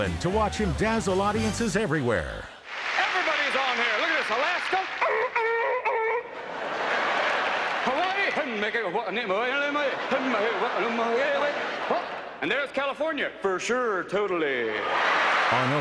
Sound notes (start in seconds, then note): 5.0 imitating animal noises; 9.2 singing in gibberish